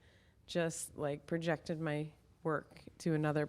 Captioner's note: none